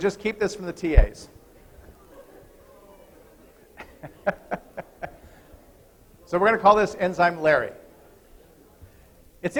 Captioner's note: laughter